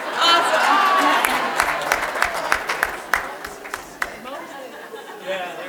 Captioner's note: audience clapping; audience laughing